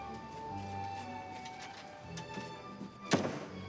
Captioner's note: none